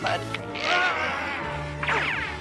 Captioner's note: <i> roaring</i>